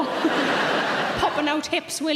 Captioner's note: audience laughing